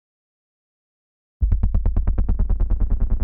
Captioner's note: drone sfx